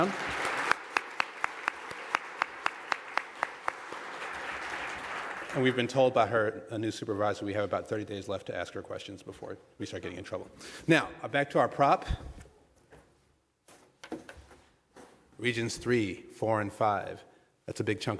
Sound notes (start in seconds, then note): 6.2 applause